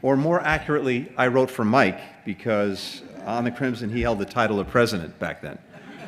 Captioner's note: laughter